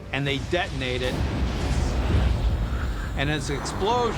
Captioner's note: explosion blasts; water splashing